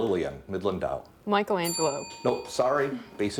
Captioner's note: bell dinging